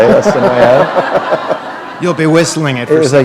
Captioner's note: laughter